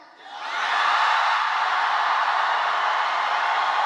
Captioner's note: crowd cheering